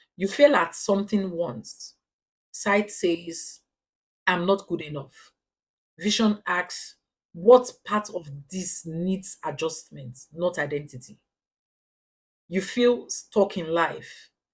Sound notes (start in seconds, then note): 2.0 paause; 5.5 paause; 14.3 paause